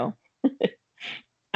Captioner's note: chuckling